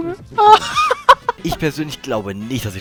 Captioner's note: laughs